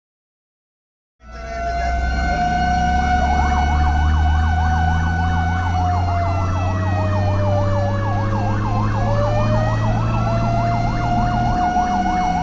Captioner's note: fire siren